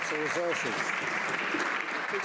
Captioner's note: some Applause